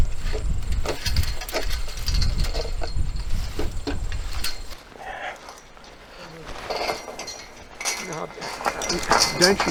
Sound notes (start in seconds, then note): 0.2 mesh clanks; 5.2 man sighs; 6.8 mesh clanks